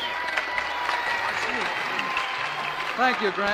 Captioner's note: applause